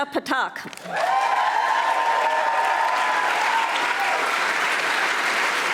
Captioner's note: audience applauding